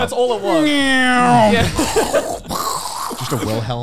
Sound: meows

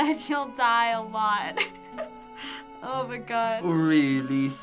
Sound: laughing

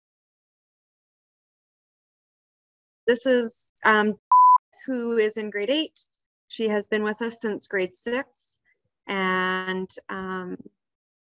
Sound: beep

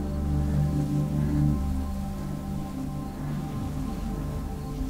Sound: heavy breathing

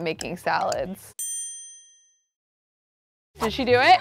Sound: dinging

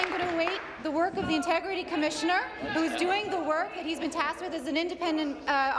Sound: applause

